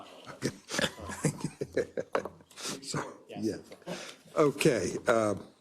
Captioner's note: laugh